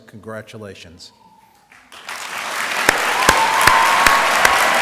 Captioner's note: applause